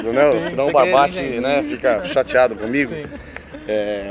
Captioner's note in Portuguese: risos